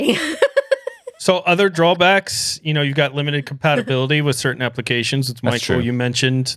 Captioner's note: laughs